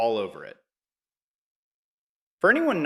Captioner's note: pause